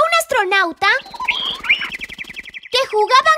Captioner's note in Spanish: Sonido de pájaro